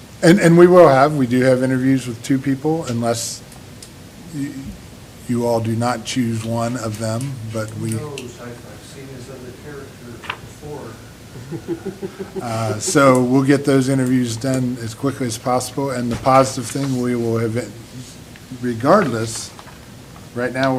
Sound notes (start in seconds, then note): 11.3 laughter